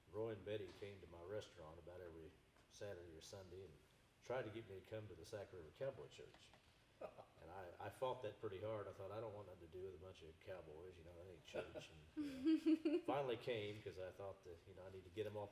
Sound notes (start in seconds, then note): 7.2 laughing; 12.2 chuckling